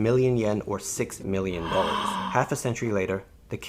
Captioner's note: gasps